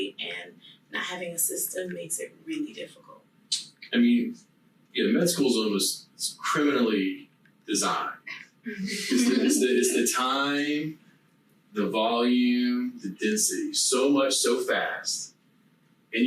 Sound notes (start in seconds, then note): 8.7 laughing softly